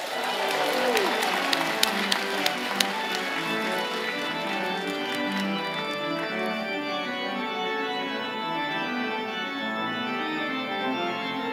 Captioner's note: applause